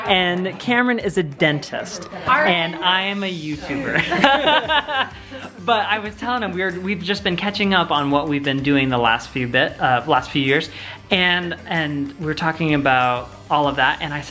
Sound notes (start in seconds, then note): 3.7 laughs